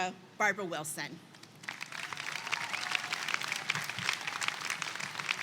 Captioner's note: attendees clap and cheer